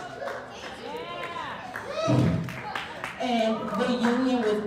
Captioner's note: cheering